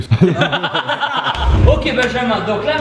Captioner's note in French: rire